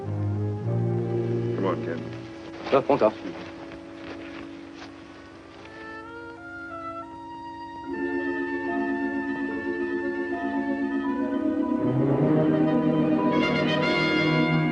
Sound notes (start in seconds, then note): 3.3 speaks foreign language; 5.9 tense instrumental music